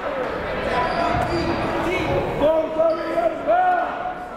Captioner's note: yelling